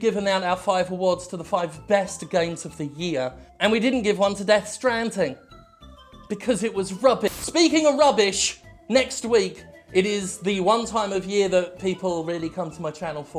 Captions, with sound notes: We've given out our five awards to the five Best Games of the Year and we didn't give on to Death Stranding. Because it was rubbi- [static] Speaking of rubbish, next week it is the one time of year that people really come to my channel for anymore,